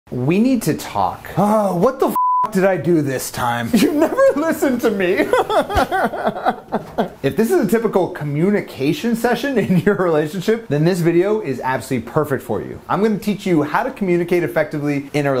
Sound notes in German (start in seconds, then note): 2.1 Piepsen; 5.2 Weinen